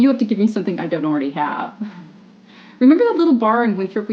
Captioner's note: laughs